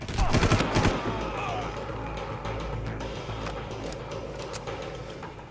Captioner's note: gun firing